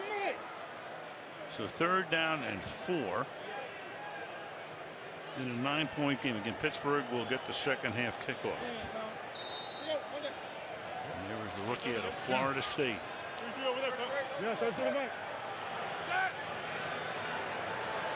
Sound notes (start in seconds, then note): 9.2 onfield chatter